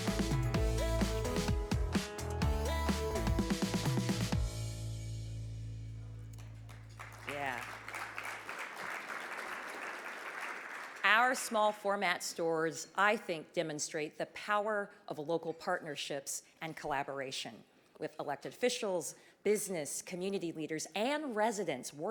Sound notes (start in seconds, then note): 0.0 energetic upbeat music; 6.3 audience clapping